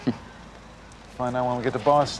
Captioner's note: chuckles